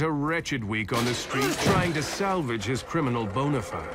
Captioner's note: thud, man groans